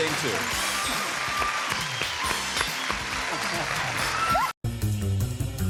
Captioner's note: applause, theme music